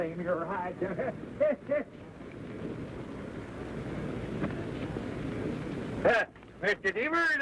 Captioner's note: ha ha ha